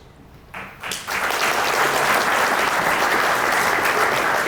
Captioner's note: audience applauding